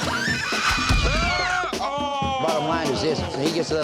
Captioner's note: screaming; groaning